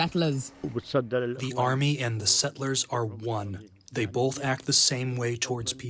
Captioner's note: through translator